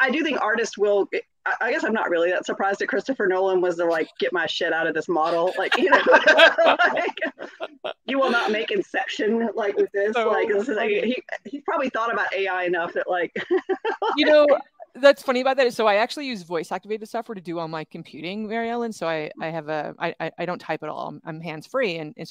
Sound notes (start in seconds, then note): 5.2 both laugh; 13.2 laughs